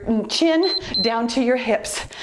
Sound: timer beeps

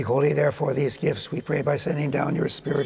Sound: chimes ringing

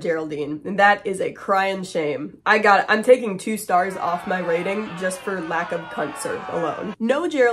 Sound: booing

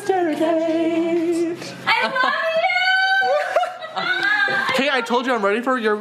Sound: laughs

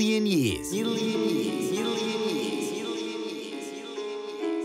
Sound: echoing

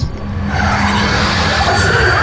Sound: growling

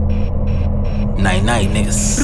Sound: brrrt

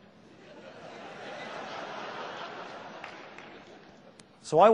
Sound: laughter from audience

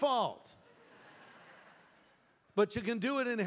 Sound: laughter

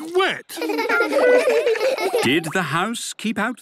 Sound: laughter

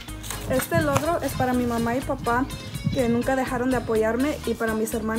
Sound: speaks in foreign language

